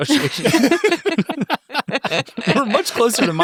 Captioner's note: everyone laughs